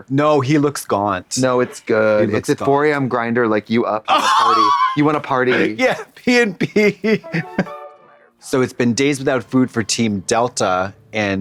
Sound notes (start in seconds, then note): 4.1 rasps; 6.7 playful music